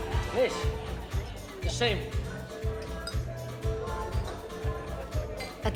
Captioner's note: Rene speaks in French